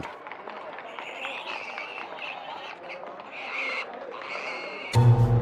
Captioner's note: pig squealing